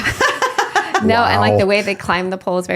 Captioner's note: laughing